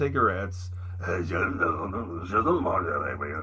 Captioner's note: mumbling in fake French